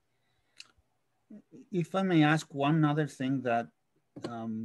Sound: calm Voice

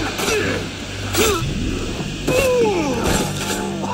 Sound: dramatic music; enemy grunting

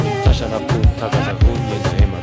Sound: in Gambelan voice

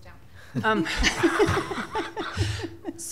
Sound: laughter

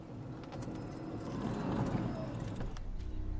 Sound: golf cart stops

